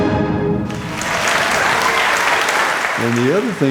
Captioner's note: audience applauding